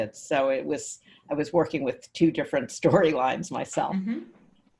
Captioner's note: laughs